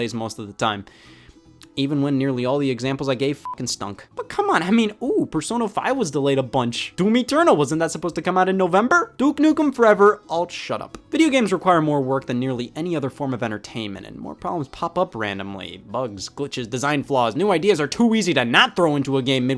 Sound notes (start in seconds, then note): 3.4 beep